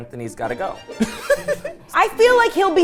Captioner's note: laughing